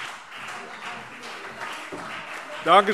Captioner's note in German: Beifall CDU